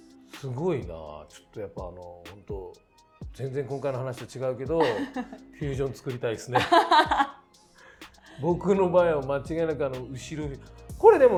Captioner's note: laughs